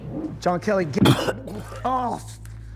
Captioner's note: Jack coughs; vomit splatters